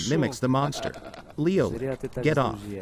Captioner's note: laughs